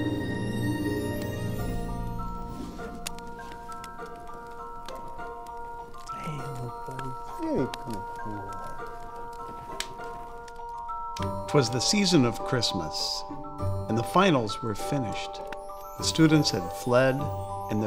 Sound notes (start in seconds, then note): 0.3 bright holiday music; 7.4 dog groans